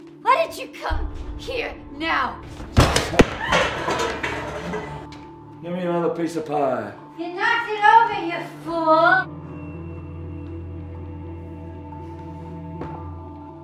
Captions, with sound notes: Why did you come here now? (crashing) (screaming) - Give me another piece of pie. - You knocked it over, you fool! (weighty instrumental music)